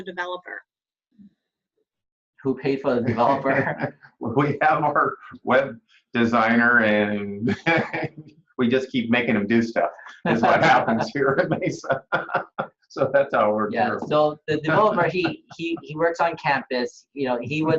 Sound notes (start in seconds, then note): 2.9 laughter; 10.0 laughter